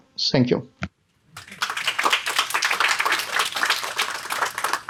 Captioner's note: audience applause